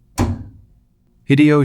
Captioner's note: SFX: Cabinet closing